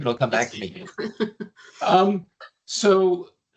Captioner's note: chuckling